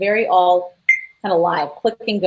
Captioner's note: beep